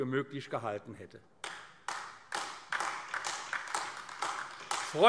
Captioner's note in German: Beifall AfD